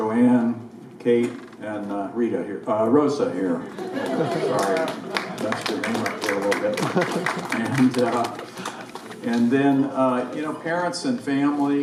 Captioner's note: crowd laughs